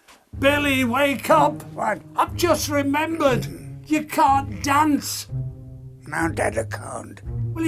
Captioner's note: none